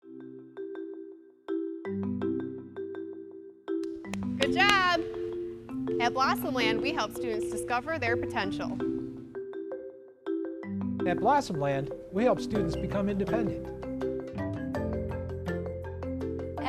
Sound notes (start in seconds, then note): 0.0 xylophone music playing; 3.8 clapping